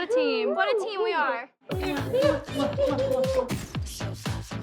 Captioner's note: smooching; gasps